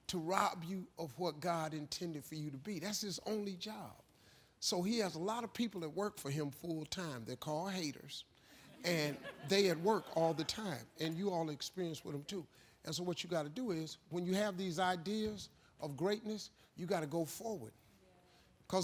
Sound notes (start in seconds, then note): 8.3 laughing